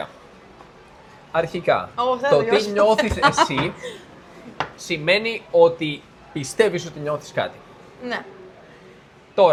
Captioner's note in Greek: γέλια